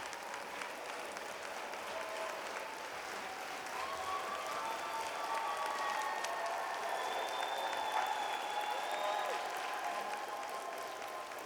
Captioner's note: cheer and Applause